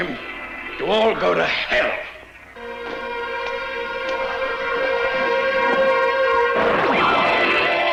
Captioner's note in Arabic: موسيقى درامية; خطوات قوية